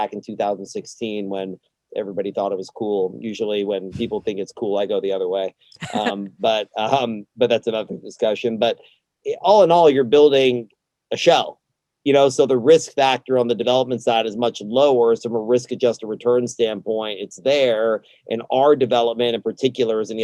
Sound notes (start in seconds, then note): 5.8 laughs